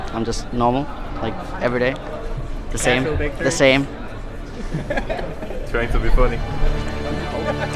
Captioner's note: laughs